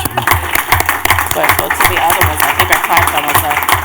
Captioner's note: clapping